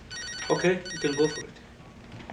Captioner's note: phone Rings